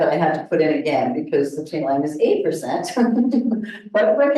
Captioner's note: laughs